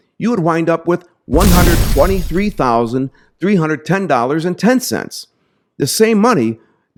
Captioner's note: explosion booms